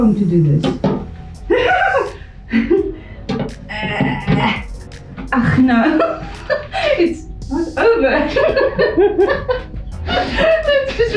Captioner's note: hysterically giggles